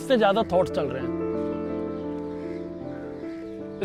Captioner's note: mind chattering